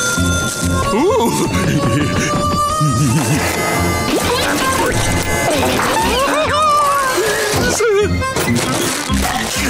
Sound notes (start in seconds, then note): 5.9 giggling